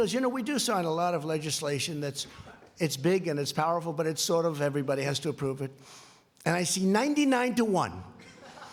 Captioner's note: laughing